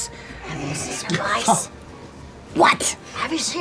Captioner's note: whispers